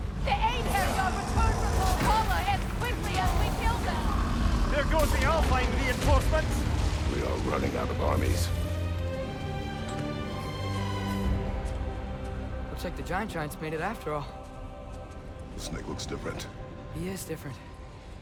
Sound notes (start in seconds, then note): none